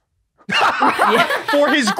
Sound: group laughing

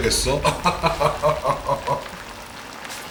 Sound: laughing

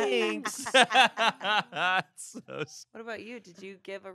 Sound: everyone laughs

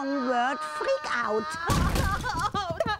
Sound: yelling

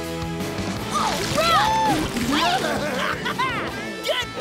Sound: cheering

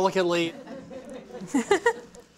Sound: laughter

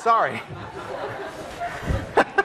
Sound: class and laughing

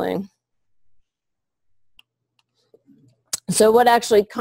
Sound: pause

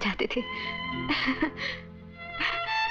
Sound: laughs

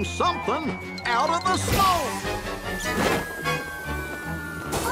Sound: none

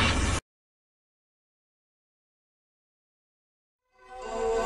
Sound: silence; nostalgic music playing

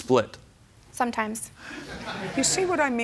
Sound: laughter

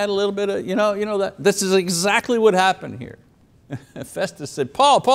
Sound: laughs

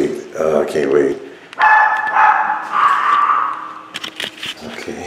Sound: dog barking

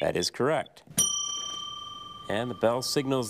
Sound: bell dings

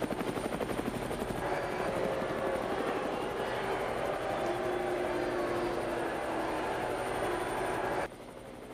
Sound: crowd booing

